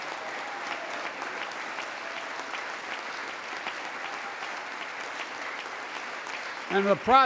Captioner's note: applause